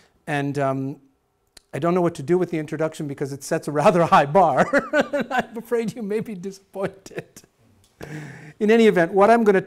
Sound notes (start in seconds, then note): 4.5 laughing